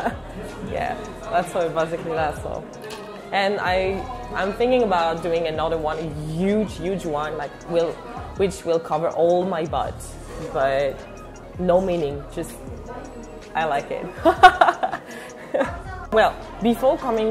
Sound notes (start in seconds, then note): 14.2 laughs in French